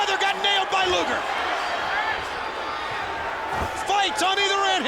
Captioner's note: crowd cheering